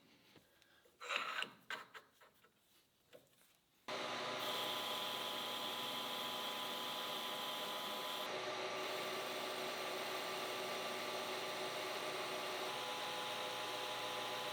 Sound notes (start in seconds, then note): 4.2 tool humming